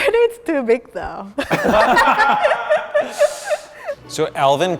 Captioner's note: laughter